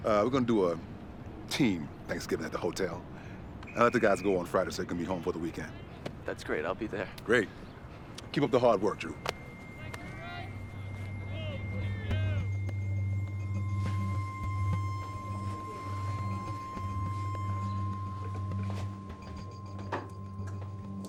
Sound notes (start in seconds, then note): 10.3 players shouting; 12.6 quietly tense electronic music